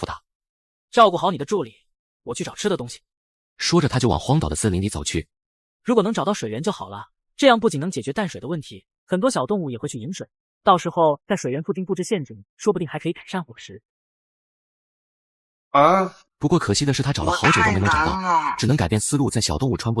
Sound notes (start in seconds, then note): 15.7 hearing the door close